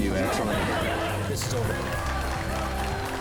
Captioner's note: laughing; applauding